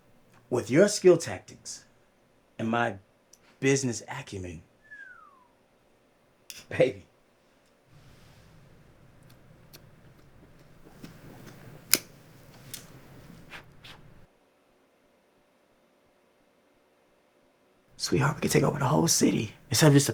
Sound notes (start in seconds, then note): 4.8 Q whistles; 12.5 lighter clicks